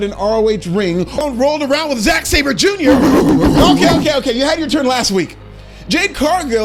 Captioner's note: barking